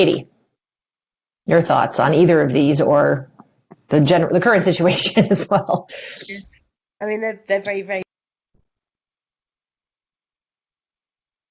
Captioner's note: laughter